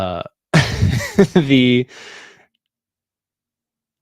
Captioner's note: chuckles